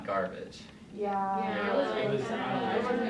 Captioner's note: chattering